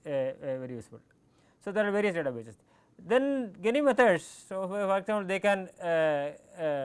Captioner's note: click